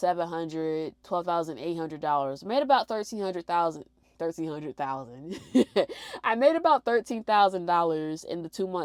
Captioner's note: laughs